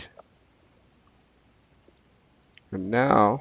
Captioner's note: mouse clicking